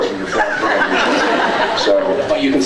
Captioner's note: laughs